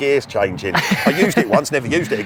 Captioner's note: laughing